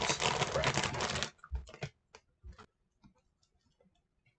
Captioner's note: abrupt bag noises, turning off camera